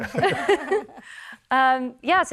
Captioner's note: chuckle